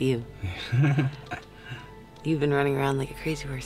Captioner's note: laughing